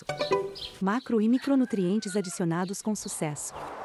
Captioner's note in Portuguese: Cacarejos